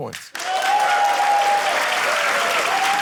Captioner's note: cheering, applause